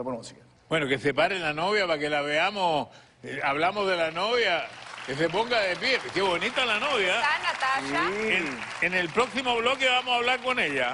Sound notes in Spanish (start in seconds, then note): 5.8 Aplausos